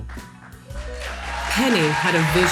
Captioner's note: audience applauds